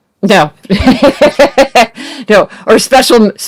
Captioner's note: both laugh